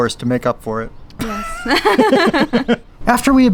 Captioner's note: both laughing